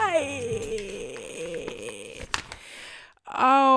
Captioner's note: slightly menacing paper rustling noises